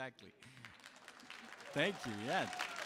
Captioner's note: audience applauds and cheers